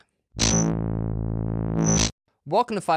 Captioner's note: logo buzzing